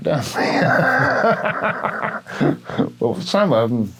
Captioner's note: laughs